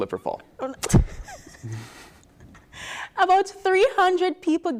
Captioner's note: laughter